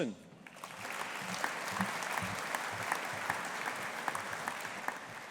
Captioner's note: audience applauding